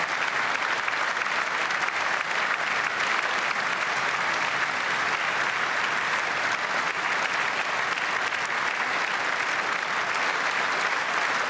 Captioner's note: applause